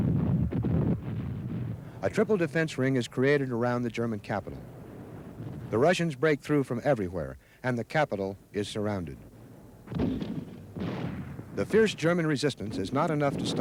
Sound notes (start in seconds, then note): 10.8 rocket blasts